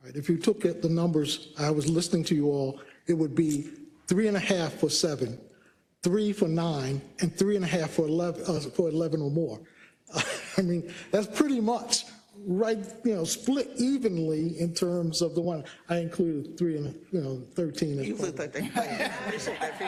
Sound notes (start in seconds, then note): 10.1 laugh